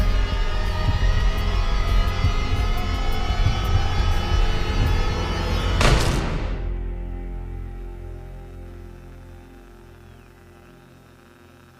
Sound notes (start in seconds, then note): 5.8 gunshot fires; 7.0 electronic buzzing